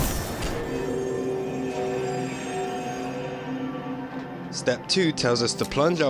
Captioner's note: chime